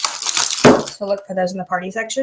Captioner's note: thump